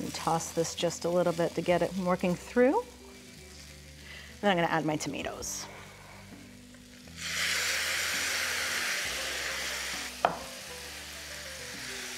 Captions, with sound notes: And toss this just a little bit to get it working through. Then I'm gonna add my tomatoes. (sizzling)